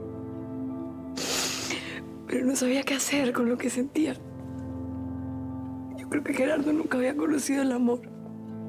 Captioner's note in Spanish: sollozos